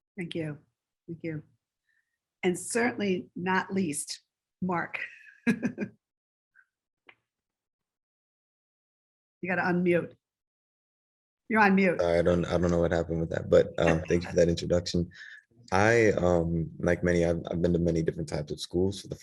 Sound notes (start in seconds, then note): 5.4 chuckles